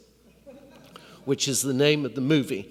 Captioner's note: laughter